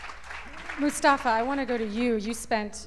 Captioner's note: applause